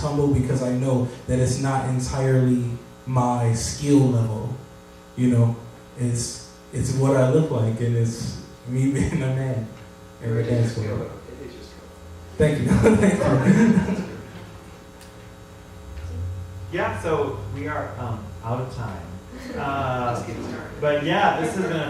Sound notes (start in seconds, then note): 12.6 laughter